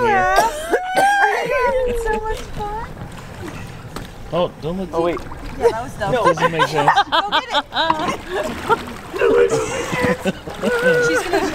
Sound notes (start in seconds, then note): 6.2 laughing